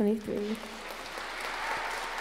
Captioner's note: applause